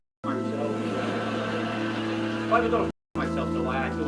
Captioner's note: laughter